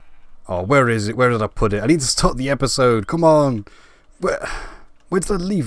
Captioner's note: sigh